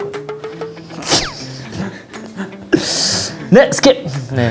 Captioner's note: laughing at own statement